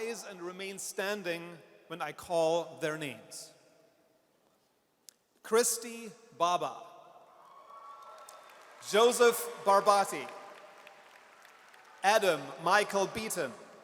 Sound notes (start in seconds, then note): 7.4 audience cheers